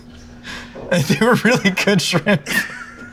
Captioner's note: laughs